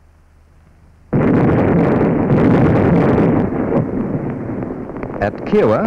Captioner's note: sound of explosions